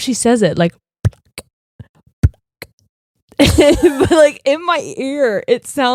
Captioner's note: vocalizing